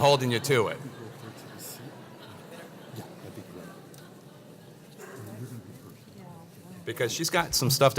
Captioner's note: laugh